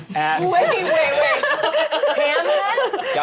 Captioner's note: laughs